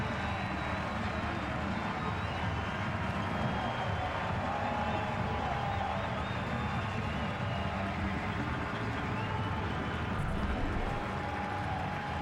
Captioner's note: cheers and applause